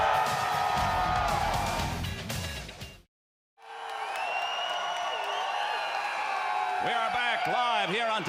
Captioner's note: crowd cheering